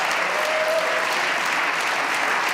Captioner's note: applause